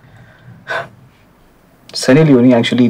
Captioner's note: Sighs